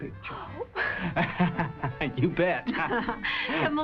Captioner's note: laughs